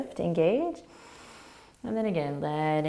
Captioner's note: inhaling